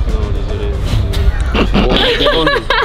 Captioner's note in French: rires